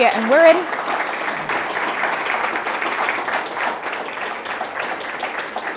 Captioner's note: audience applauding